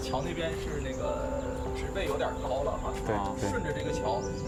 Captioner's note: speaking Chinese